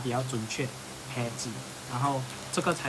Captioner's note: fujian dialect